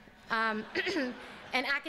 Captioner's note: laughter